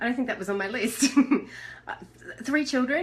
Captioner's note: chuckles